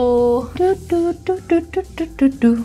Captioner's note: humming